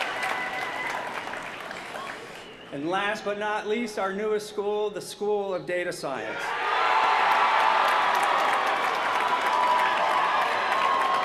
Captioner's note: cheers & applause